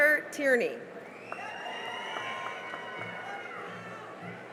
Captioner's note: cheering and applause